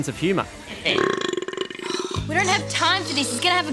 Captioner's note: belches